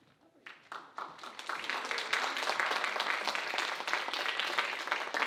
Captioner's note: audience applauding